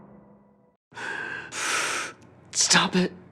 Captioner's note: heavy breathing